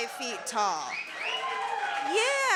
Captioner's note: cheering